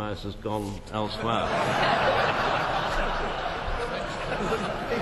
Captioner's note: laughter